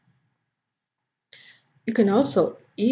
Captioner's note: Arabic